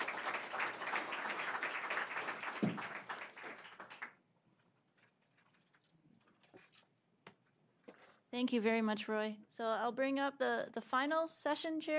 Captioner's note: applause